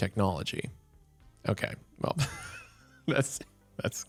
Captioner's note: laughs